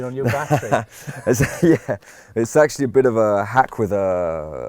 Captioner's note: laughs